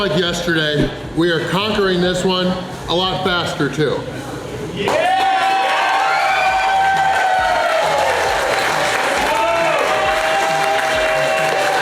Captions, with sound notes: yesterday, we are conquering this one, a lot faster too. (Crowd cheering)